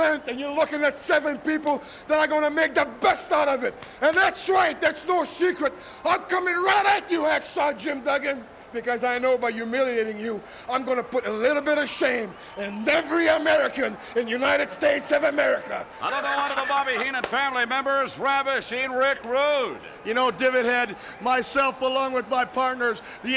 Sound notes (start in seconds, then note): 15.9 laugh